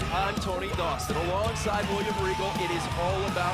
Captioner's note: crowd cheering